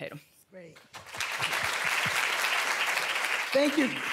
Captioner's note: applause